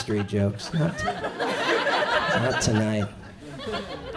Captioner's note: audience chuckles